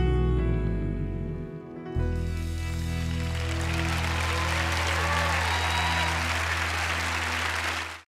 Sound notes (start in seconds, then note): 2.2 music fades; 3.0 cheers and applause